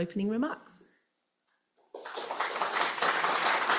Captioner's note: applause